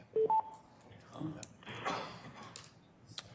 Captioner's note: phone beeping